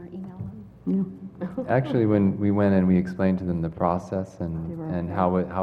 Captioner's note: laugh